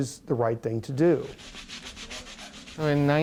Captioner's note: surgeon scrubbing intensely